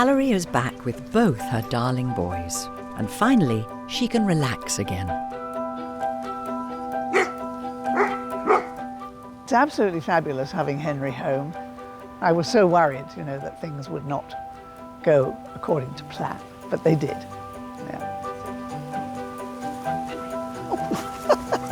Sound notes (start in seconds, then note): 7.0 dogs bark; 18.3 gentle music; 20.6 laughs